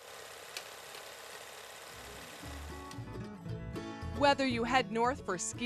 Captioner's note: film reel spinning